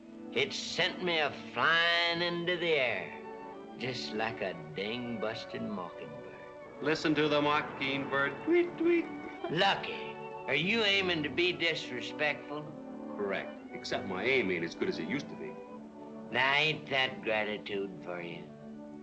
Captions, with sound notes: it sent me flying into the air, just like a ding-busted mockingbird. [ MOCKING ] Listen to the mockingbird... Lucky, are you aiming to be disrespectful? Correct, except my aim is as good as it used to be. Ain't that gratitude for you?